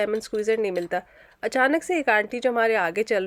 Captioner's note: in urdu,I believe